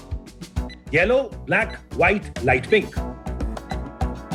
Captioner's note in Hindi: बीप बजते हुए